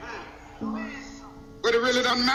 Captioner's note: group murmurs